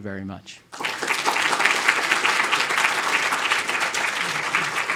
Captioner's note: audience applauding